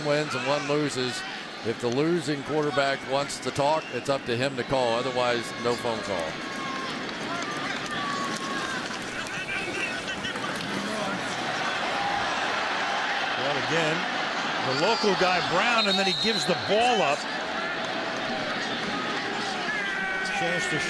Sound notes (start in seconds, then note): 13.1 cheering